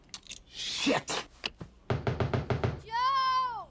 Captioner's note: knock on door